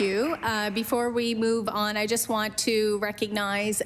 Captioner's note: applause